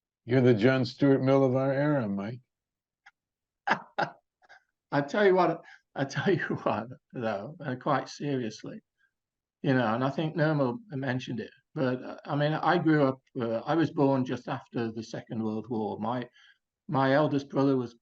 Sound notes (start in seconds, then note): 3.6 laughs